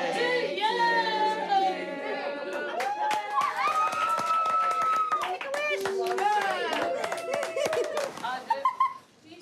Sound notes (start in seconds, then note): 2.7 applause; 7.2 laughs